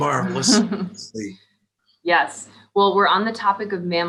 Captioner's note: laughs